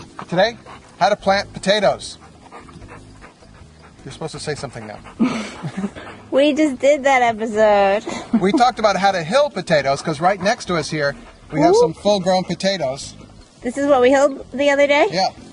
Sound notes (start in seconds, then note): 0.0 laughs; 2.3 dog panting; 4.7 laughs